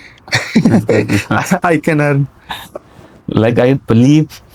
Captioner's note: laughter